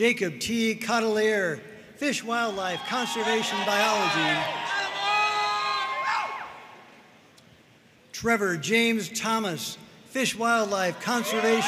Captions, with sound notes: Jakob T. Cotteleer, Fish Wildlife Conservation Biology. (audience cheering and applauding) Trevor James Thomas, Fish Wildlife Conservation Biology.